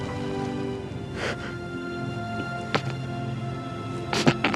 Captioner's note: sobs; Eddie gasping